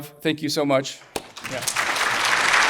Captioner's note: audience applauding